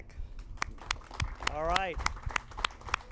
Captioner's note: and audience clap